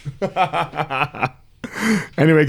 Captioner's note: laughing